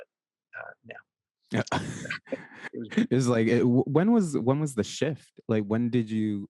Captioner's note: laughs